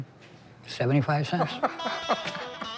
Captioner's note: laughs